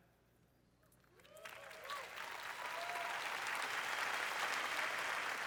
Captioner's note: applause